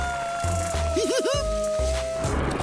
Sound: giggling

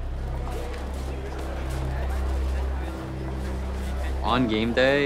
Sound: people chattering

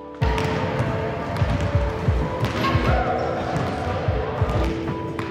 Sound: basketballs bouncing

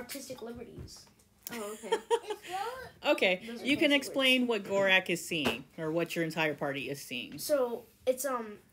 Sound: laughter

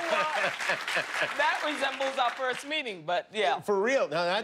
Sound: cheers and applause

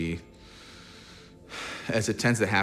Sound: sighs

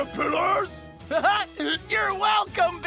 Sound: laughing

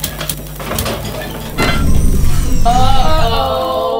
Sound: machine powers down

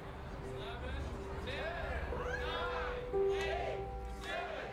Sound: crowd

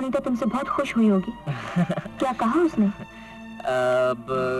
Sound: chuckles

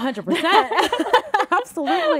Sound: laughs

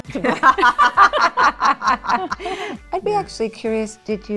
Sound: all laughing

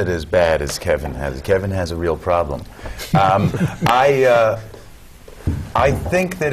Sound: laugh

